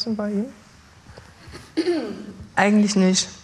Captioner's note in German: Sie räuspert sich